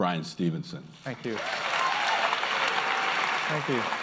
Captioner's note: applause